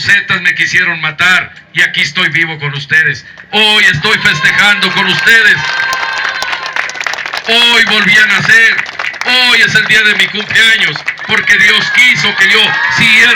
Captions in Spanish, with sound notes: "LOS ZETAS" ME QUISIERON MATAR Y AQUÍ ESTOY VIVO CON USTEDES, HOY ESTOY FESTEJANDO CON USTEDES (aplausos), HOY VOLVÍ A NACER, HOY ES EL DÍA DE MI CUMPLEAÑOS PORQUE DIOS QUISO QUE YO SIGUIERA VIVIENDO,